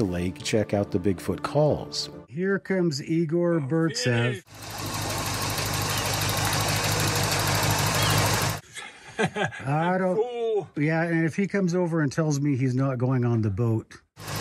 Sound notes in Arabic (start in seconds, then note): 4.5 هدير محرك السيارة; 8.6 يضحك بصوت عالٍ; 14.2 هدير محرك السيارة